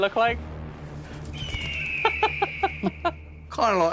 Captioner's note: Jack laughs